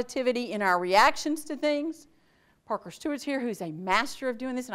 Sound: none

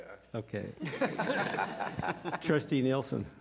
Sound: laughter

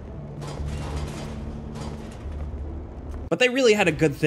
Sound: trashcan rattling

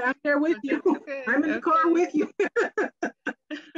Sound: laughs

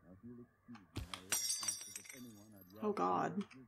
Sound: radio Man Talks On; glass Shatters

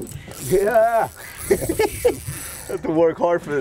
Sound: laughs

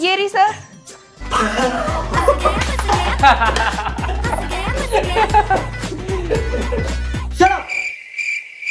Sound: laughing

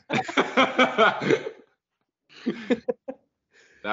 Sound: laughing

